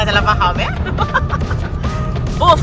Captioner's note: laugh